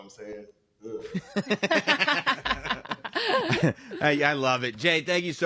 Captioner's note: laugh